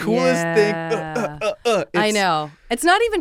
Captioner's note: grunting